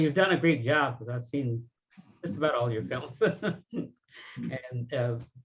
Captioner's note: laughs